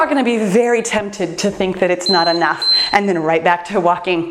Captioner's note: timer beeps